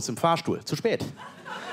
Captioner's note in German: Lachen